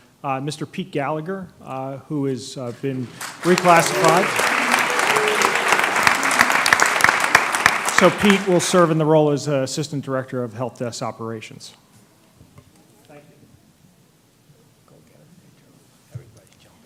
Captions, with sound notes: Mr. Pete Gallagher who has been reclassified. [applause] So Pete will serve in the role as Assistant Director of Help Desk Operations. Thank You.